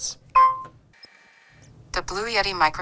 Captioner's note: pin beeping